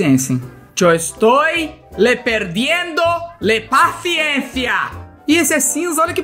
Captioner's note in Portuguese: em "espanhol"